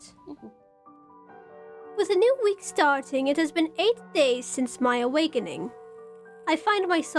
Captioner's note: large bell tolls